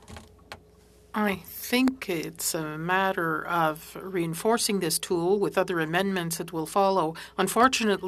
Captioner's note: speaking French